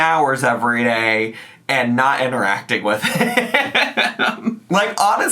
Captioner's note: laughs